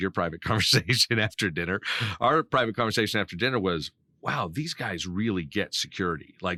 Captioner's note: laughing